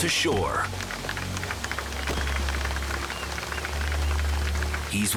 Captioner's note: bystanders applaud